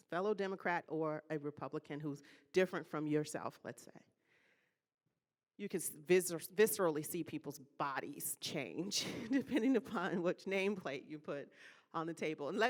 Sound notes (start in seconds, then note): 8.8 laughing